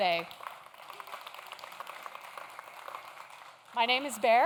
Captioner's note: audience claps